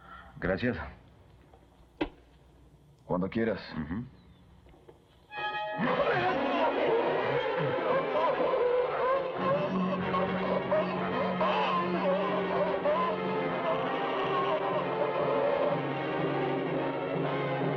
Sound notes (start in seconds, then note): 5.8 grunting, Screaming